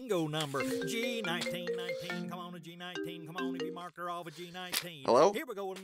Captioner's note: phone rings